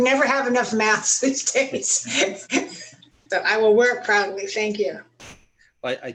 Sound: laughter

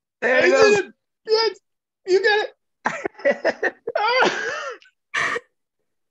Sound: laughs

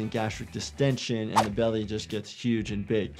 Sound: graphic whooshes

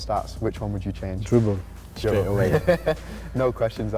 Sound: laughter

